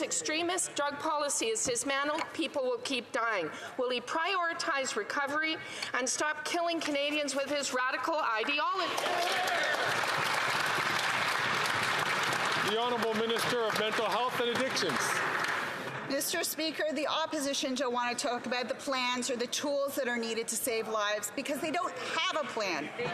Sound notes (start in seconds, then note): 16.2 some Applause